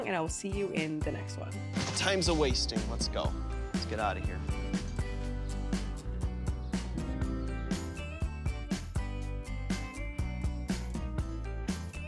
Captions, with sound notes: and I'll see you in the next one. - Time's a wasting. Let's go. Let's get outta here. (bright upbeat music) (birds chirp)